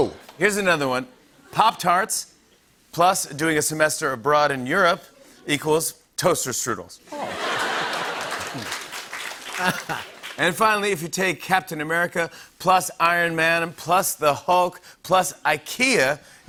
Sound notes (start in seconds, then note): 7.1 laughter and applause